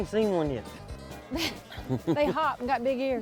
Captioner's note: laughs